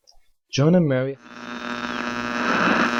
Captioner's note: interferences